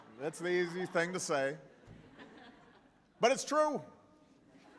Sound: laughter

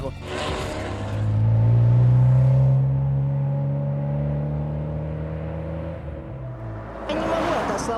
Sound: roar of engine

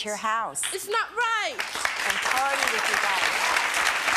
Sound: clapping

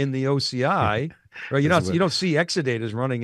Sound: chuckling

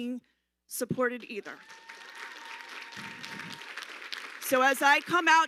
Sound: audience applauding

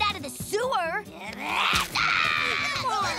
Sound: yelling

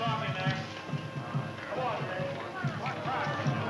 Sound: people chatting

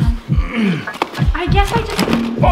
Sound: grunts

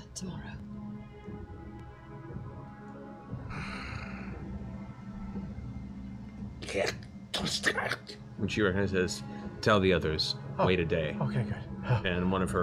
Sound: sigh, foreign words

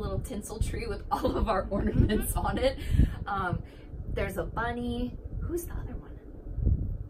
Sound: laughter

